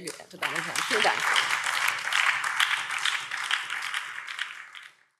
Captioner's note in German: Anhaltender Beifall BÜNDNIS 90/DIE GRÜNEN